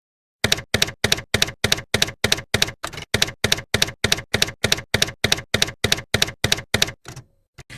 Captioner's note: typewriter keys clacking